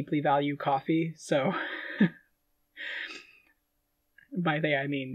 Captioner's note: laughing